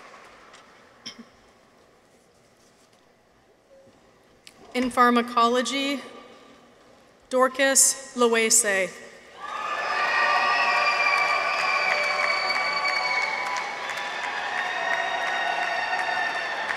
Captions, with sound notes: In Pharmacology. Dorcas Lohese. -(people cheer) -(audience applauds)